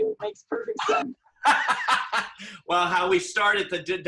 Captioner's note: laughs